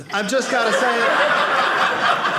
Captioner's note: audience laughing